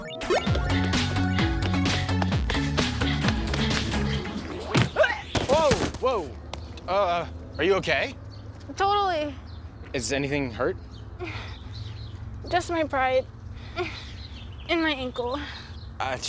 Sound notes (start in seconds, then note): 0.0 playful upbeat music; 4.5 Olivia grunts